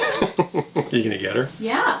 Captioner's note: laughs